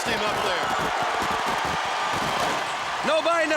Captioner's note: applause